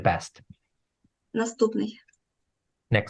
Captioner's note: foreign Language